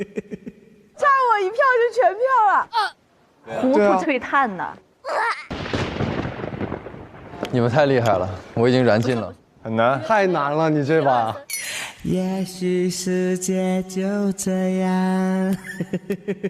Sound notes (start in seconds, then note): 5.2 stumbling